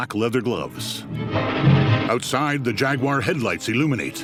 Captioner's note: determined music; engine revs